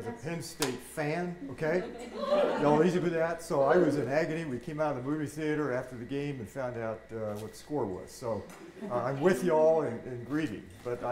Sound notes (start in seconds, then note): 3.5 audience cheering